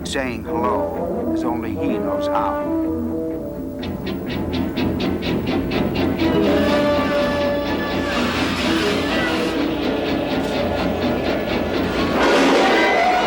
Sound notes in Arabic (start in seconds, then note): 4.1 موسيقى مخيفة; 6.3 أزيز النيران; 8.3 موسيقى درامية